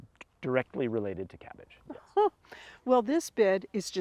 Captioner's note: laughs